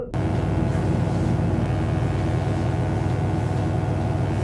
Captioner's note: electric buzzing